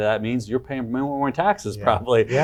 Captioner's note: chuckles